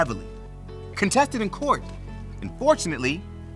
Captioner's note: paper rustles